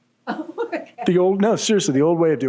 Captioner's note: laughing